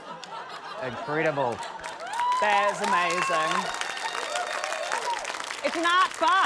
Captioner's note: cheering, applause